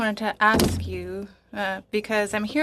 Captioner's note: speaking French